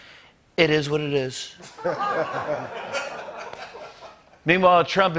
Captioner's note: laughter